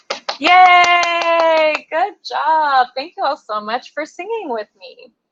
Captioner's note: applause